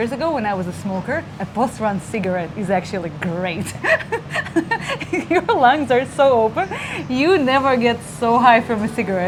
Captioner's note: laughing